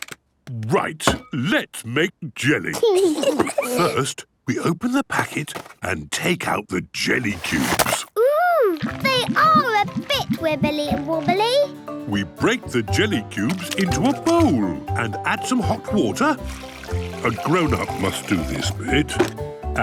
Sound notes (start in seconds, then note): 2.8 giggles